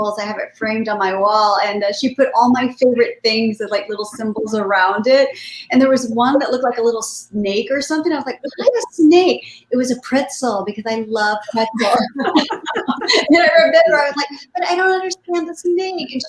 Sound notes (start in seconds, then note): 11.5 laughing in unison